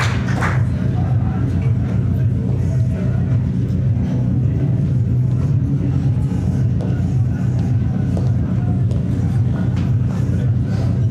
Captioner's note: muffled crowd sounds